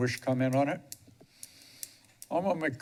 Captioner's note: pause